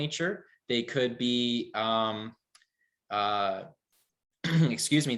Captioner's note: clears throat